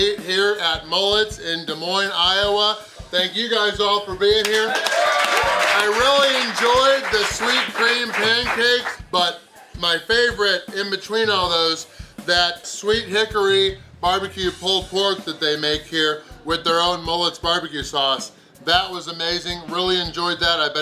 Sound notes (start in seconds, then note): 4.4 crowd cheers; 4.4 claps; 4.4 crowd applauds